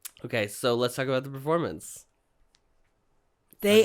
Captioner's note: none